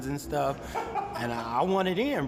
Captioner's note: laughs